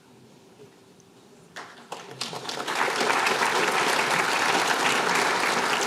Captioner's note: applause